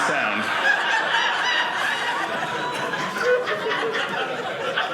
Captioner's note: audience laughing